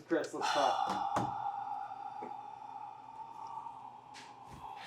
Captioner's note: sighing